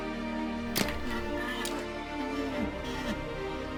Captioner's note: rhino whines; dart gun shot